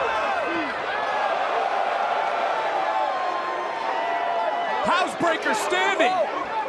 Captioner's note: crowd cheers